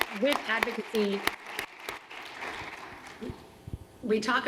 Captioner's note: applause